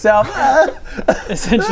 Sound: ahh!

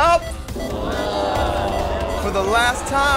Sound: groaning

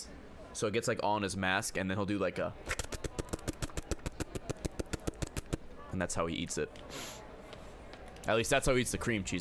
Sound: licking noises

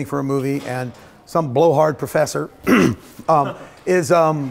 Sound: throat clearing; audience chuckles

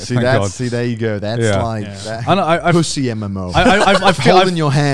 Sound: laughing

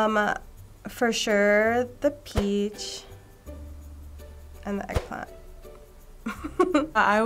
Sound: chuckles

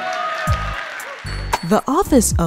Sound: congregation applauding

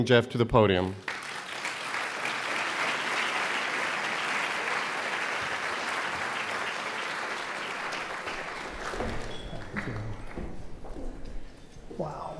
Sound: applause

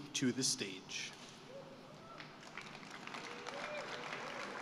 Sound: applause

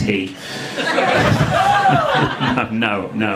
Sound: audience laughing

